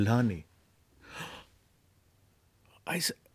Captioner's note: gasps